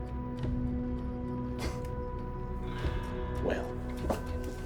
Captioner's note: chuckles